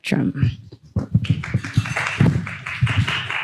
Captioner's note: applause